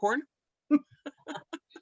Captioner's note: laughter